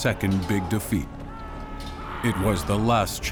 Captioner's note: screams